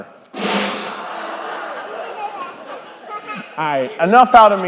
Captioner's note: crowd laughing